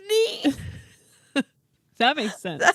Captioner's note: laughing